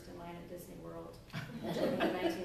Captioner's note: laughter